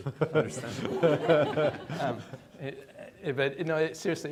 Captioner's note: attendees laughing